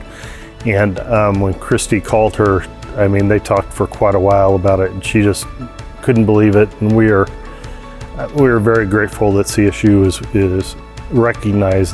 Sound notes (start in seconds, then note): none